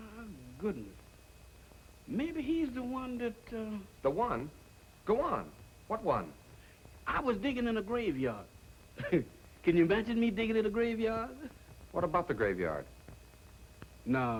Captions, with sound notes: Oh, my goodness. Maybe he's the one that a-- The one? Go on. What one? I was digging in a graveyard. [chuckles] Can you imagine me digging in a graveyard? What about the graveyard?